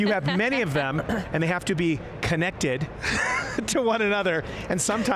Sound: laughing

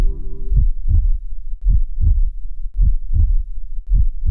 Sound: heartbeat thumping

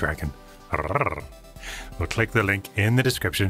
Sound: man imitating growling

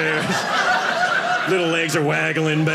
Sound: audience laughing

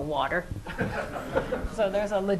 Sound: laughter

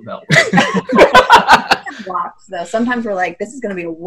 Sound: laughs

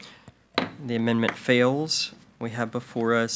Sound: gavel bangs

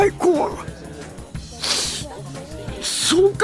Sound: sniffs

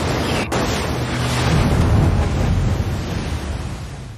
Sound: water splashing

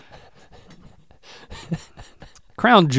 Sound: Link chuckles; Rhett chuckles

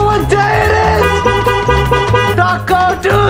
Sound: car horn honks

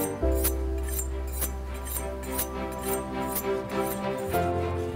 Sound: suspenseful music; knife blade scraping on steel

